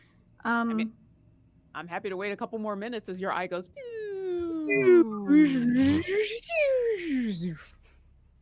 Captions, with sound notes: - I'm happy to wait a couple more minutes as your eye goes. (people whirring)